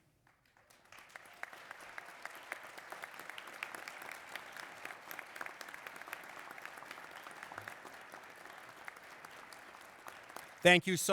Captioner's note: applause